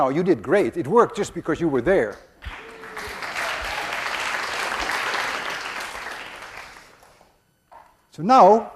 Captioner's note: class applauds